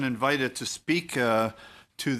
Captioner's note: speaking French